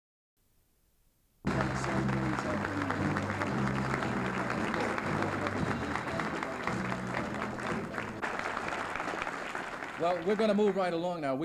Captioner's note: applause